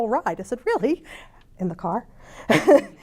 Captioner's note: laughs